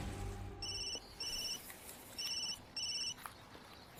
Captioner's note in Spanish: Suena el celular